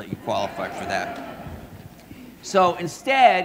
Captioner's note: audience laughing